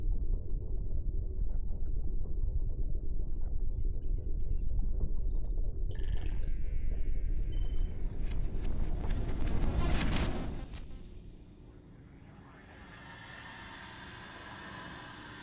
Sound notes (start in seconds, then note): 3.9 digital beeping and whirring